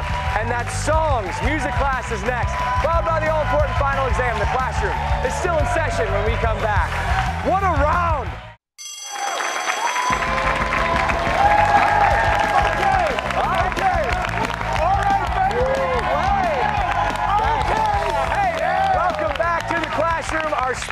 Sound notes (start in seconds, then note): 8.7 bell rings; 9.0 cheers and applause